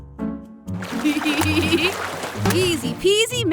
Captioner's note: chuckling